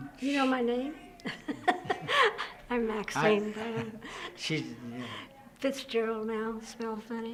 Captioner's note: both laugh